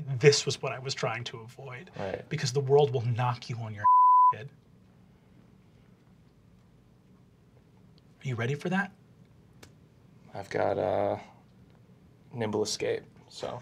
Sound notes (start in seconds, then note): 3.8 beeping